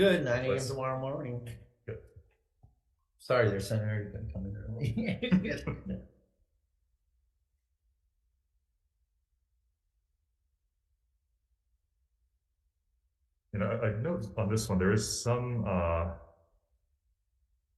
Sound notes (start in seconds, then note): 4.8 laughs